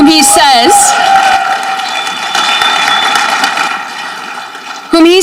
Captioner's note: audience cheering